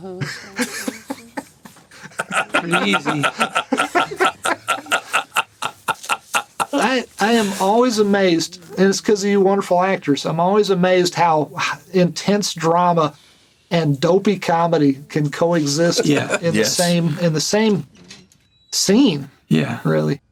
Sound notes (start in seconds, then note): 0.1 laughter; 3.5 laughter continues